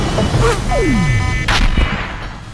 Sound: suspenseful Music; vrrr,Shot

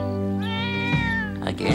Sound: meowing

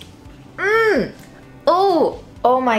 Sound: wincing

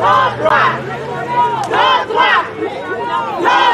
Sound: picket line chants

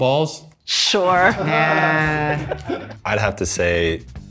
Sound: everyone laughing

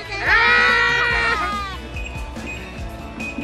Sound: screaming

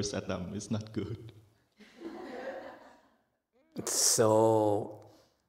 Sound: audience laughs

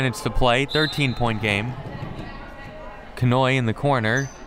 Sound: whistle

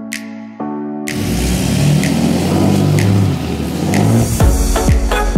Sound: engine revving; lively music

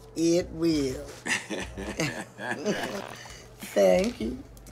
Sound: both laugh

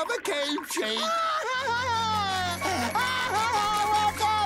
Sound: screaming

